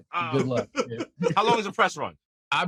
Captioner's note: laughing